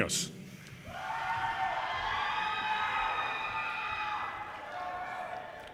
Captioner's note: audience cheers and applause